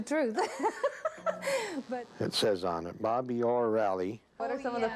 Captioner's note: laughing